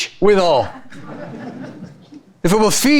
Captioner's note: audience chuckle